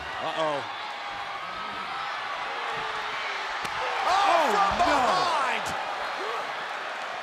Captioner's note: applause